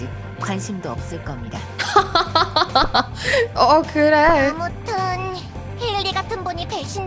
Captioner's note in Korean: 웃음